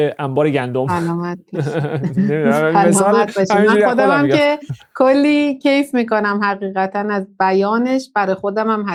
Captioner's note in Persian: خنده